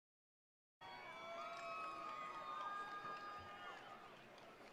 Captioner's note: attendees cheering